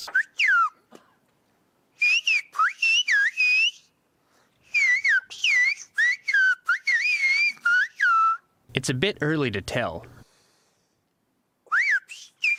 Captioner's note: through translator